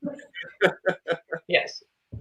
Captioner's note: laughing